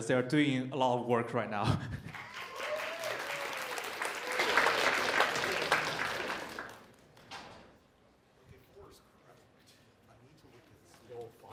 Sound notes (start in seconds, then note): 2.1 cheers and applause